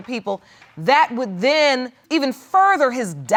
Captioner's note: none